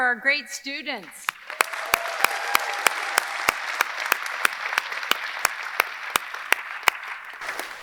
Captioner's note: audience applauding; audience cheering